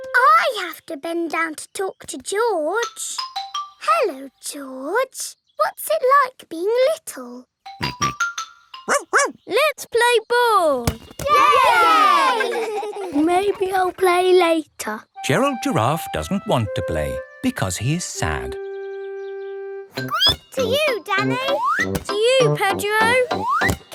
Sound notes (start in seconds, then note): 7.6 snorts; 8.9 barks; 11.3 all cheering and laughing; 20.0 squeaks